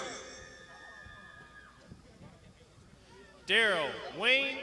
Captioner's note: crowd shouting